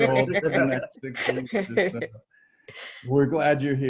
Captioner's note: laughing